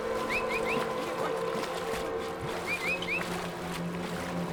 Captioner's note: person whistling